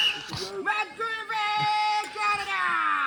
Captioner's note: whistle blowing; yelling